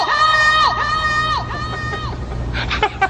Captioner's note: yelling; echoing; laughing